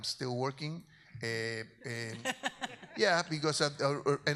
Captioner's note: audience member laughs